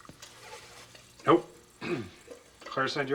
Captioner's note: clears throat